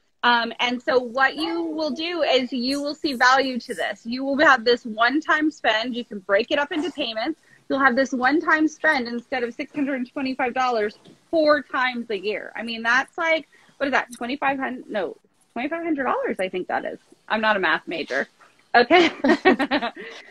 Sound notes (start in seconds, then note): 19.0 laughs